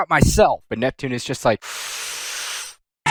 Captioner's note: inhale